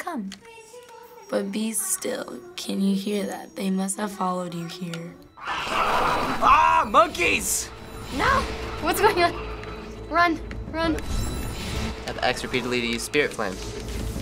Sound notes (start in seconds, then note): 5.4 in game: creatures snarl; 8.1 ominous music